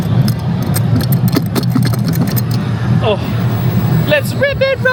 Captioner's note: seatbelts rattle